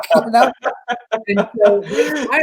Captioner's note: both laugh